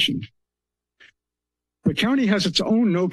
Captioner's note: pause